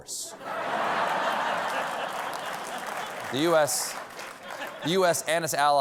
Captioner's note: laughter